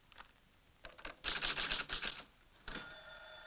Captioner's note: typewriter clacking; phone ringing